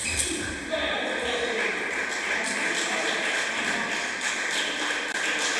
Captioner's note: applause